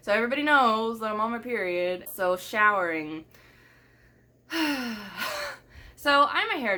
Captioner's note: sigh